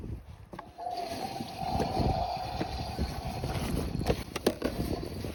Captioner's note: toilet flushing